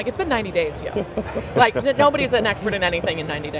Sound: others laughing

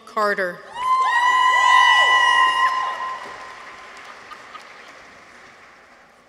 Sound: people cheer; audience applauds

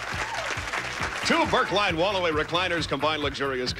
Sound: audience applauding

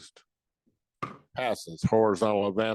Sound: gavel thudding

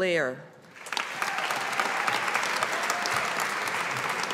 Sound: audience applauding

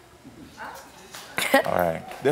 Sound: audience chattering

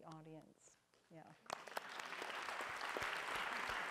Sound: applause

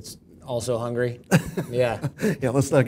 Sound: laugh

